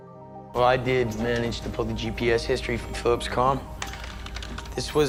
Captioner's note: voiceover